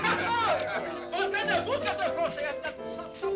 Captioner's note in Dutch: mensen lachen, praten